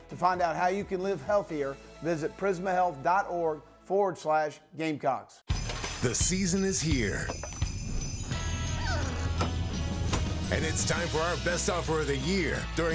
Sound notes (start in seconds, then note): 8.4 dog whining